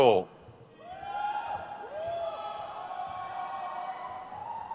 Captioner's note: crowd cheers